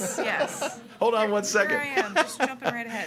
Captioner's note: laughs